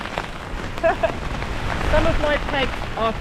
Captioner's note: chuckles